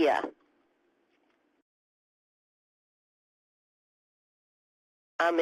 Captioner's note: pause